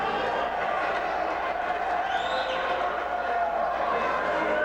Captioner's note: spectators cheering